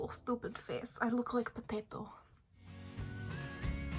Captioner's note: in Russian accent